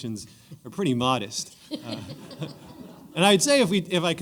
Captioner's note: laughter